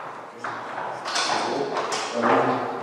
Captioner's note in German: Scheppern, Wortfetzen